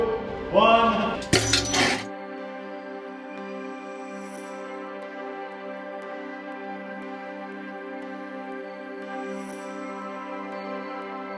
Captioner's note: clank sound then music